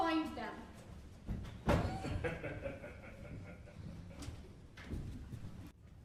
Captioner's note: laughs